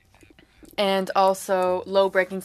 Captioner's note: speaking French